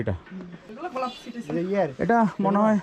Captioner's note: chatter